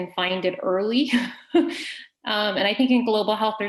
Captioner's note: laughing